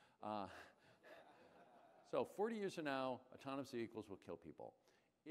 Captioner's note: laughter